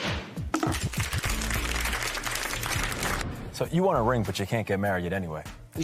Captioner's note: applause